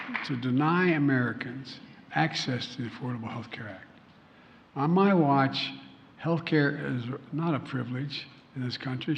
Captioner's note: applause